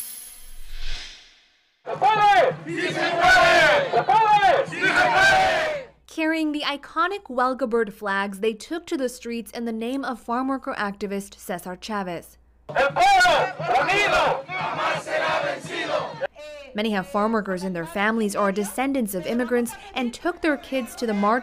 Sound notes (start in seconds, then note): 7.0 chanting